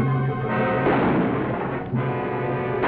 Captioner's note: gun shots